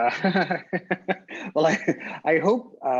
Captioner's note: laughing